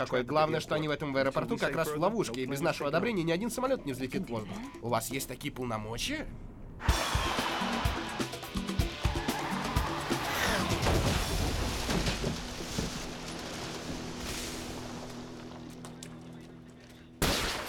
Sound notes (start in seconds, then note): 7.2 tires screhing; 14.1 electricity crackles; 17.2 electricity crackling